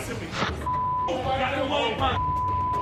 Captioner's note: angry shouting